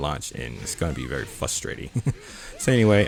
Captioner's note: chuckles